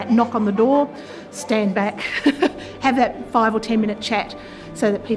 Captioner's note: laughs